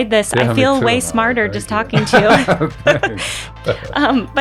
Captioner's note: laughing